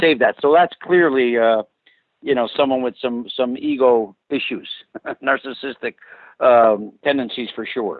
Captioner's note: laughs